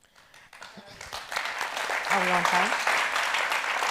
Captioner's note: audience applauds